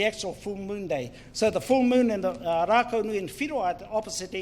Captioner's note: foreign Language